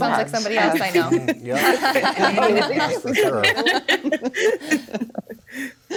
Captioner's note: all laughing